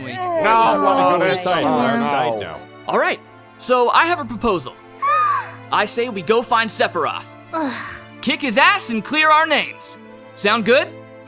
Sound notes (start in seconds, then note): 5.0 excited gasp